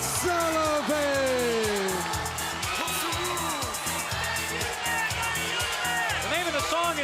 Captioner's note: crowd chatter